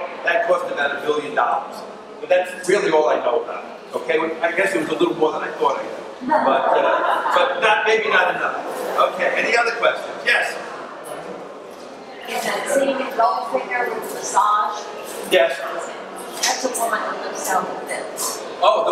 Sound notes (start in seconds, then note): 6.3 audience laughs